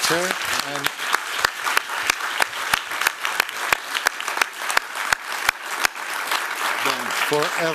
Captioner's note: applause